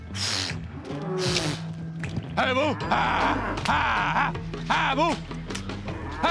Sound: yelling

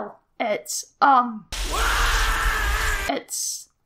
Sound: screams

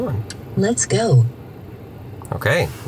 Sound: computerized Voice

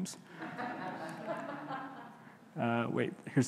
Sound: audience laughing

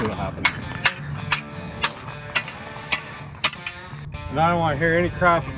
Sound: hammer clanking

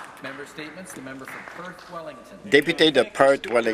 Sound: some Applause

